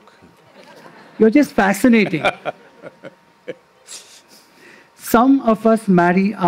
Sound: laughter; Sadhguru laughs

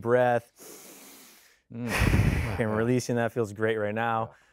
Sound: inhaling

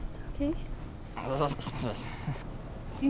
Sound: whippy whimpering

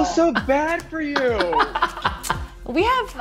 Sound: laughs

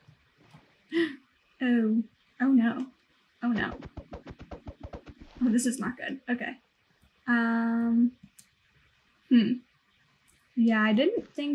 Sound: gasp

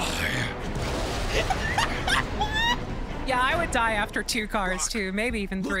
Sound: laughs

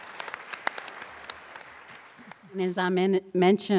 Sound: applause

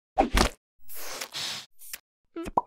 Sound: splat; pop

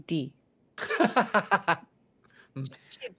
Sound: laughing

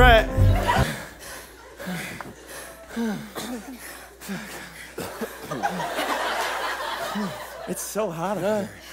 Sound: panting

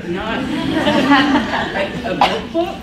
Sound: laughs

